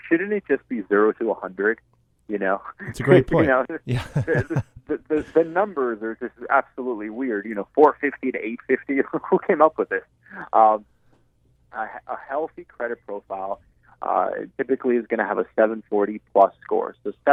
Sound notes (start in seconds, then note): 3.1 voiceover